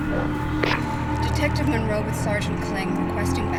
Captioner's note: door thudding; radio static crackling